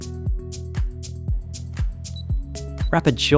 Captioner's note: keypad beeping